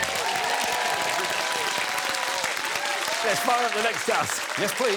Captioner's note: applause